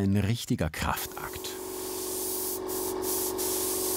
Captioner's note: compressor whirring